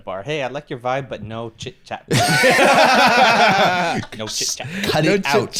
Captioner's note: all laughing